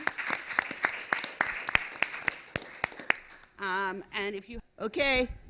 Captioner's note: applause